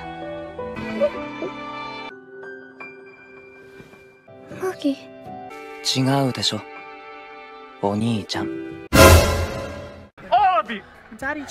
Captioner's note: crying meme